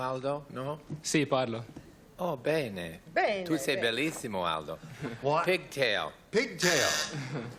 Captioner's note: speaking italian